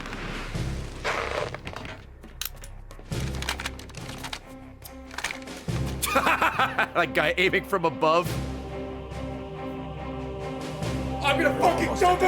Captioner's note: laughs